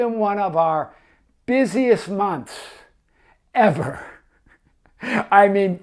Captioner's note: laughs